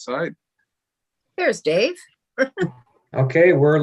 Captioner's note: laughs